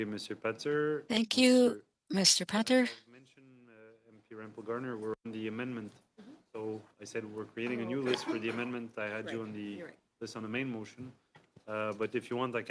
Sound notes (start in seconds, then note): 4.5 speaking French